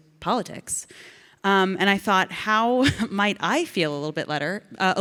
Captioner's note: Ilana laughs